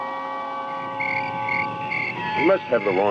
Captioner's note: insects chirping